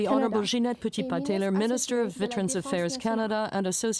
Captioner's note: speaking French